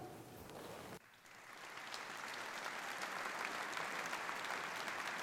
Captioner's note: applause